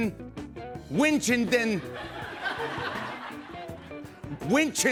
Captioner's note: laughter